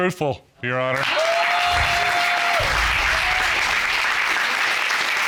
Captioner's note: applause